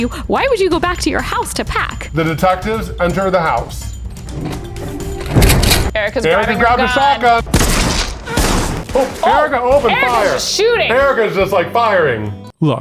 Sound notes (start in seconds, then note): 5.5 gun cocks; 7.5 gun firing